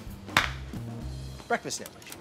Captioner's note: up-tempo percussive music; hands clap